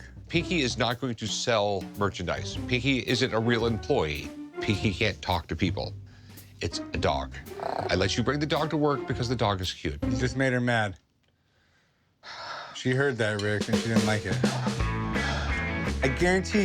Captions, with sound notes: - Pinky is not going to sell merchandise. Pinky isn't a real employee. Pinky can't talk to people. It's a dog. [dog growls] I let you bring the dog to work because the dog is cute. - You just made her mad. - [sighs] - She heard that, Rick, and she didn't like it. - [sighs] - I guarantee you.